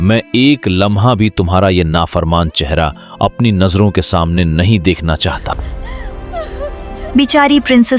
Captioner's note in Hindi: रोने की आवाज़